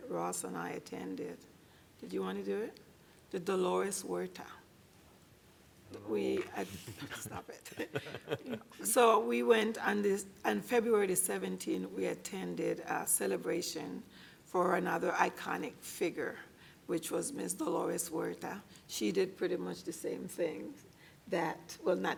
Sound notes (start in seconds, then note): 6.7 laughter